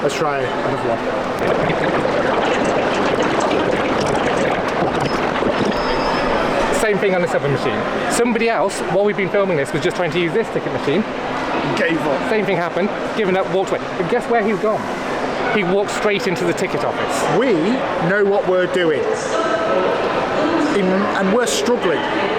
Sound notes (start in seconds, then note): 1.1 sped up ambient sounds